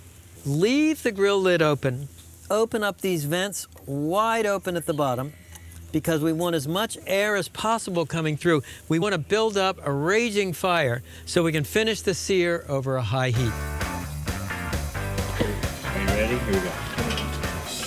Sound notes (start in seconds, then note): 15.2 laughing